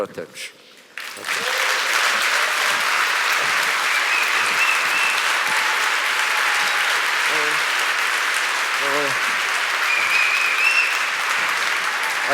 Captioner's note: applause